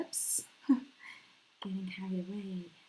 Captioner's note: chuckles